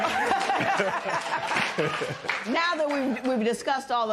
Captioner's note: laughter and applause